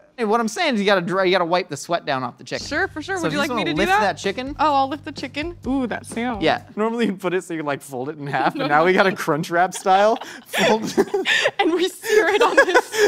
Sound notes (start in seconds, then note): 9.6 laughs